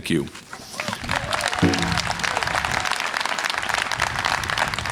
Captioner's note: audience cheering